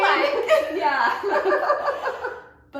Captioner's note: laughter; laughs